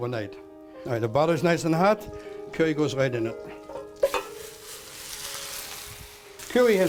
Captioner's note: sizzling